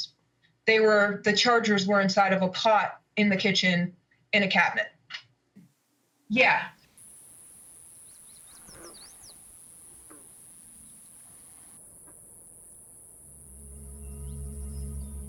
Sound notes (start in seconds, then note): 7.6 birds singing